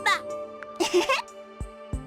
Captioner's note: sheepish chuckle